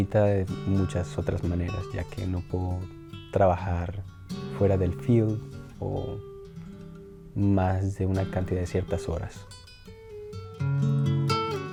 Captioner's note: continues speaking Spanish